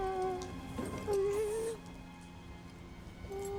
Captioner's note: sobs